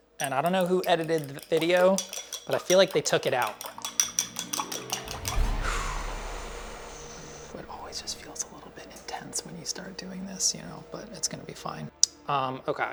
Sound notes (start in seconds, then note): 3.4 frightening music; 5.4 exhales heavily